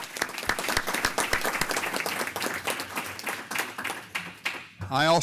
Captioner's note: applause